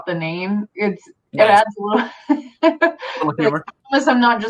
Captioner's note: laughs